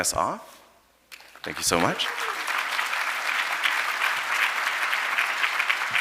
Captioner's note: audience applauding